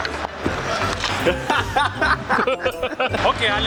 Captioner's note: laughter